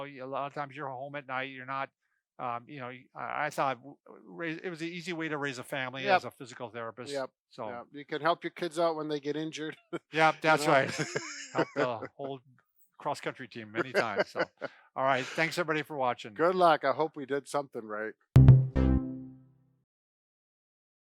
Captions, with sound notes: a lot of times you're home at night. I thought it was an easy way to raise a family as a physical therapist. - You can help your kids out when they get injured. (laughs) - Yep that's right. Help the old cross country team any time. All right, thanks everybody for watching. - Good luck, I hope we did something right. (upbeat tone)